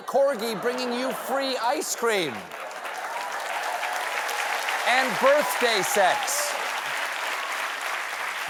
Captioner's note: cheers and applause